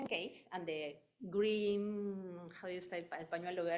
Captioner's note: speaking in foreign language